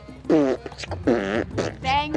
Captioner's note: blowing raspberries